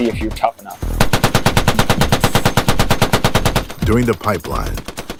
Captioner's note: weapon firing